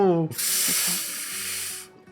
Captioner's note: blowing